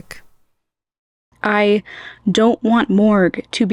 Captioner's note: inhale